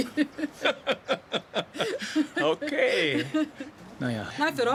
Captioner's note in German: Lachend